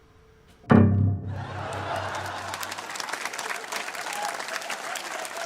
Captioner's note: canned studio audience laughter and applause